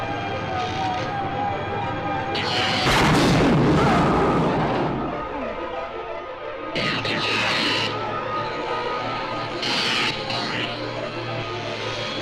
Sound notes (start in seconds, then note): 2.8 loud exploding; 7.1 electric zapping; 7.1 suspenseful music